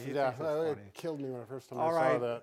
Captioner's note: none